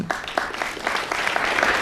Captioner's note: applause